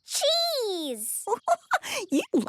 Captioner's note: giggling